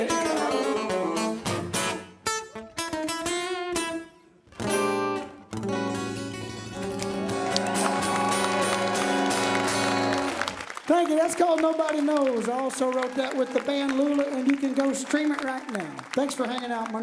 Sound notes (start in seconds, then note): 2.6 guitar outro; 9.1 crowd applause